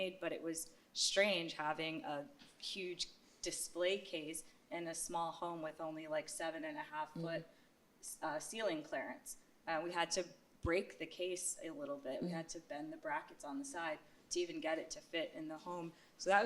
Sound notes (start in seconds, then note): none